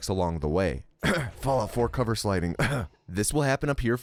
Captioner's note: cough